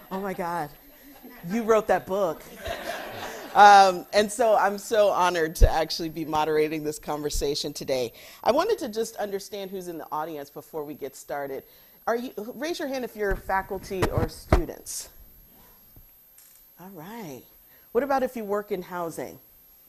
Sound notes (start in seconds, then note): 2.4 audience laughing